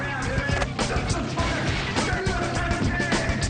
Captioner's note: Alex shouts incoherently